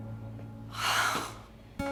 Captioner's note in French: soupirs